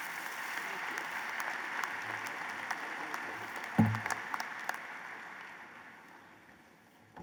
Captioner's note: applause